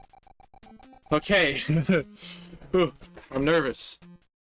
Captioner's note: nervous chuckling